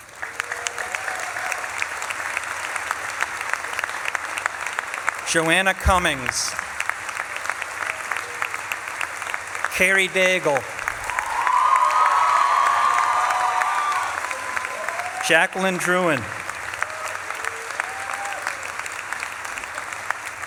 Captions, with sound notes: (audience claps and cheers) Joanna Cummings. (audience claps and cheers) Kerry Daigle. (audience claps and cheers) Jacqueline Drouin. (audience claps and cheers)